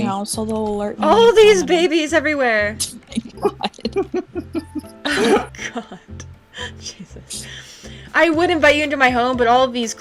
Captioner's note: laughing